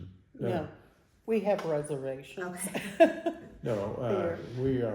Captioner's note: laughing